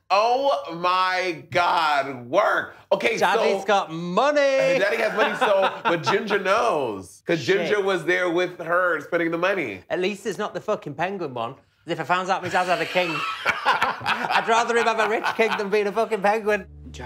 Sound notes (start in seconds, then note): 12.4 laughing